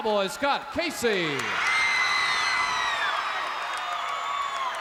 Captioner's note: crowd cheers